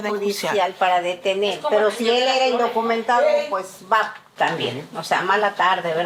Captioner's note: speaking in Spanish